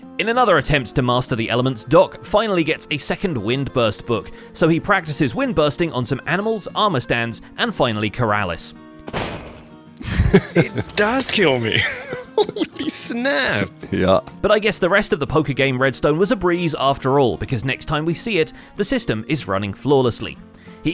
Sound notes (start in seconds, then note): 10.0 chuckles; 10.0 laughs; 10.0 bonk